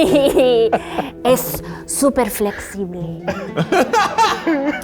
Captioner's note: laughs; laughs loudly; speaking Spanish